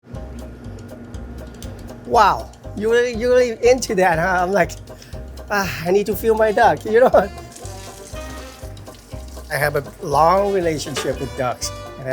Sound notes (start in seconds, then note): 0.0 playful music; 7.7 playful music; 7.7 water running